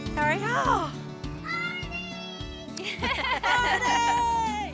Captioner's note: everyone laughs